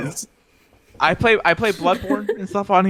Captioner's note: laughs